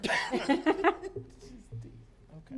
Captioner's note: laughter